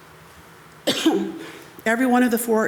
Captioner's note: coughs